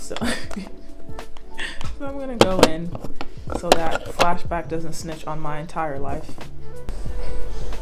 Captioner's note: chuckles